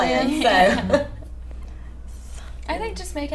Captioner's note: laughing